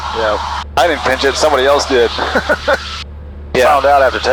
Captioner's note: laughing